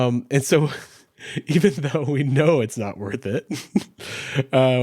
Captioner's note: chuckles